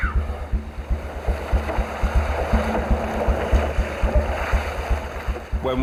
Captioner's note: tense music; water sloshing